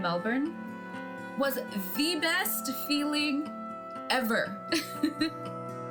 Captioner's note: laughs